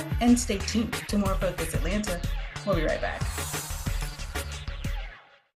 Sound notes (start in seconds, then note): 3.2 air whooshing; 4.0 intriguing upbeat music